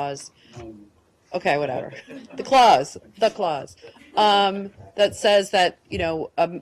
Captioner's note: laughter